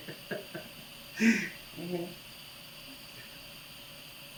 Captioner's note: laughing